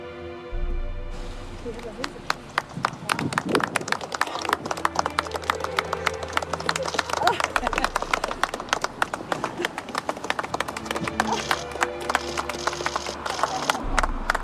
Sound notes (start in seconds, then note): 2.0 applauding